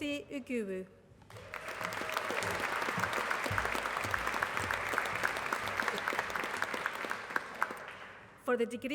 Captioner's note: applause